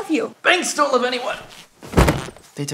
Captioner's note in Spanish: Caja en movimiento golpea el piso